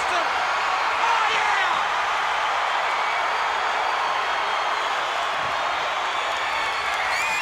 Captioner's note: crowd cheers